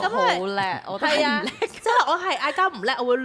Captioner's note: arguing